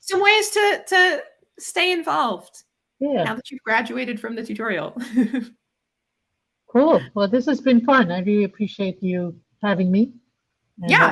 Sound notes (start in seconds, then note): 5.0 chuckles